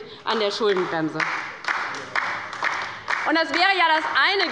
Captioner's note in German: Beifall bei der LINKEN